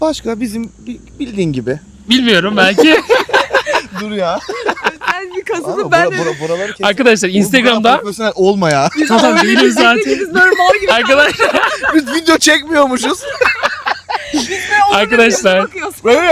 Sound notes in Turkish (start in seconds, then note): 2.6 kahkaha; 9.7 kahkaha; 13.7 kahkaha